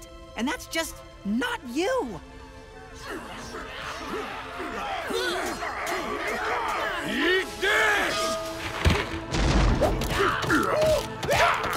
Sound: screaming and fighting

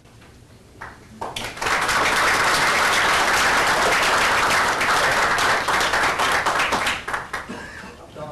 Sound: applause

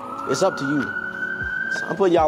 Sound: siren

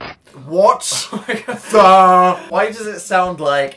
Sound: laughs

